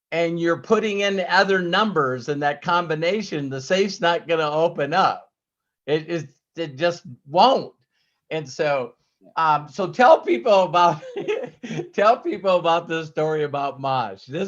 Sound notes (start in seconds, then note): 10.9 laughs